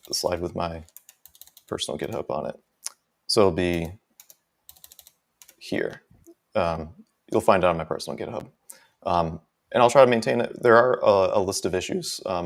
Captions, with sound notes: the slide with my personal GitHub on it. So it'll be (mouse clicking) here, you'll find out on my personal GitHub, and I'll try to maintain it. There are a list of issues